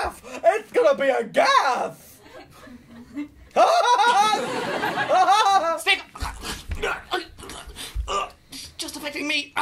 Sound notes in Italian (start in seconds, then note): 3.5 risata malefica da clown; 6.1 soffoca